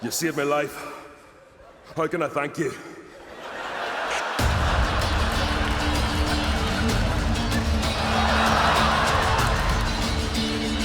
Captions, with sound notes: You saved me life, how can I thank you? (laughs) (upbeat guitar music)